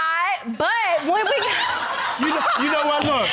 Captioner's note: woman cackling